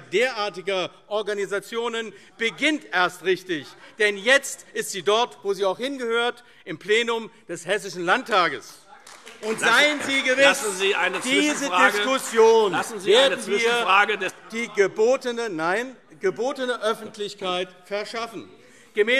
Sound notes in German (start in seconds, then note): 9.0 Beifall AfD; 14.3 Zurufe